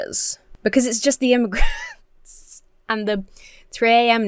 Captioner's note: laughs